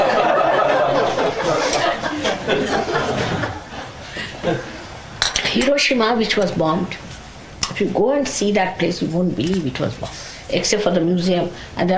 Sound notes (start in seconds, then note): 0.0 laughter